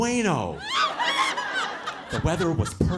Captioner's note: audience laughing